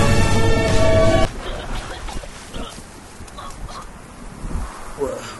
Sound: coughing

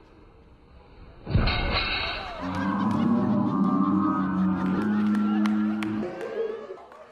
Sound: muffed thud; slowed down groaning

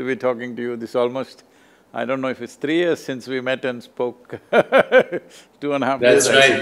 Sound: laughs

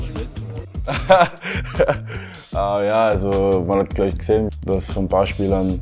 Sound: laughs

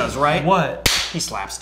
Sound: claps loudly

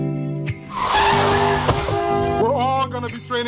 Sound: car horn honking and tires skidding

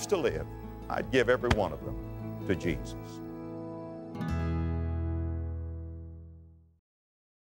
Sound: slap

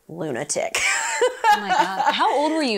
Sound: laughs

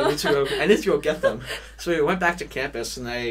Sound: laughs

